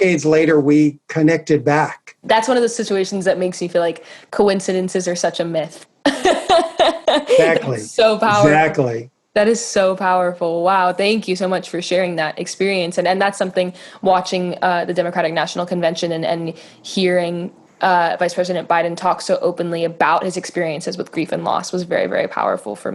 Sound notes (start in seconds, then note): 6.1 laughing